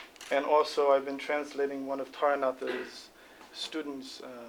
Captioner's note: non-english speech